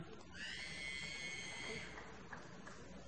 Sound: applause

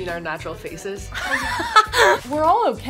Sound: laughter

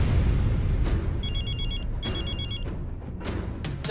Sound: phone ringing

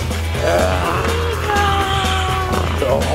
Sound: growls

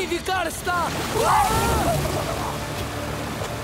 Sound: screaming

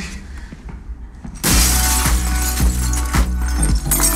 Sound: glass smashing

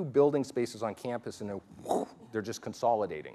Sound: whoosh

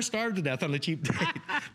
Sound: laughter

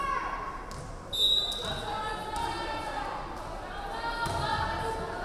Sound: referee whistling

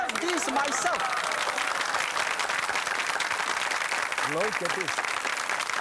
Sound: audience clapping

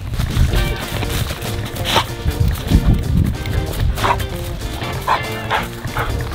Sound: dog panting

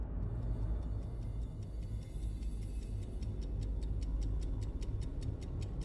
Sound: A metronome-like ticking sound in the background

